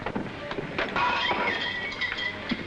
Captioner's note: crash